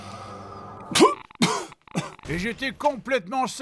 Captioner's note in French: tousse